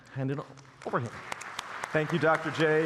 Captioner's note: applause